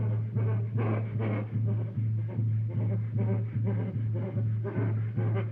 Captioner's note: shivering